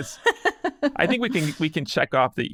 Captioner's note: person laughing